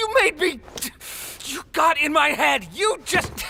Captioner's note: hisses through teeth